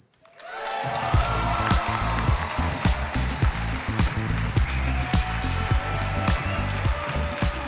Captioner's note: audience cheering; cheerful music